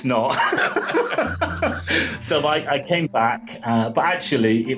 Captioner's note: laughs